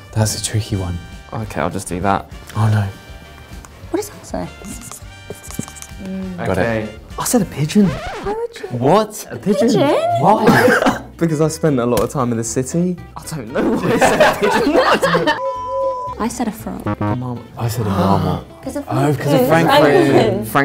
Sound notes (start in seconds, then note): 5.2 pen scribbling; 13.6 all laugh; 16.8 electronic beeping